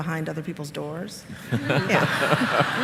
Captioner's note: laughter